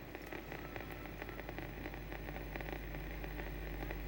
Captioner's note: static crackling